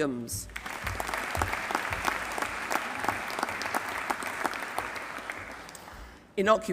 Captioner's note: applause